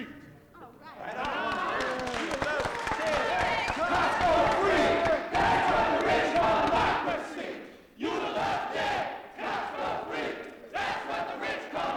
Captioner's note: applause, protesters chant